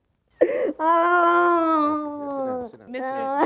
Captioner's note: sobbing